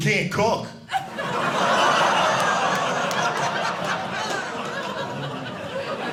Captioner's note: audience laughing